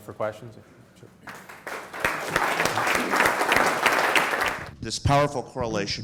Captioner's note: audience applauding